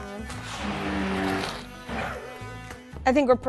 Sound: blender whirring

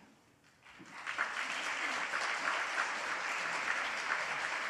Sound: audience applauds

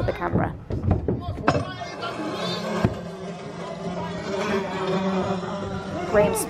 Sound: loud noise of flies

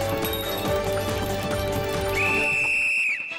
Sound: whistle blowing

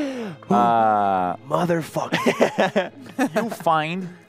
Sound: laughter

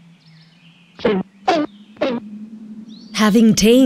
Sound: cartoony bouncing

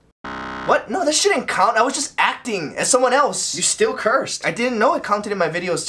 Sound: none

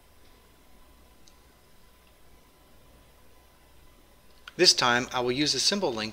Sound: pause

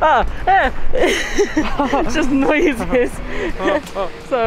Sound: excited noises

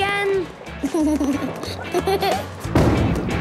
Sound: giggles

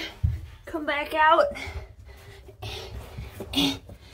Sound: pants

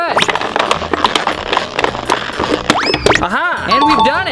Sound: bottle crinkling

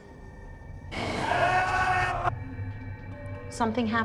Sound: screams

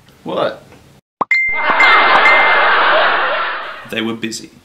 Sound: notification tones; laughing

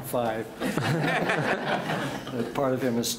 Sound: audience laughs

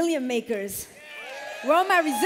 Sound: cheers

